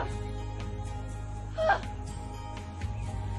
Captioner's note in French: exhales